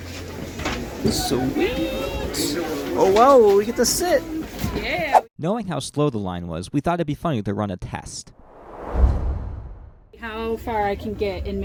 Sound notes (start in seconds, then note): 8.3 whoosh